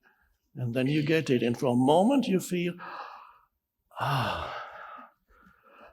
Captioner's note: sighs